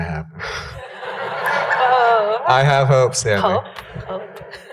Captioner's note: laughter